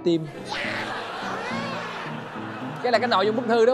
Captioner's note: laughing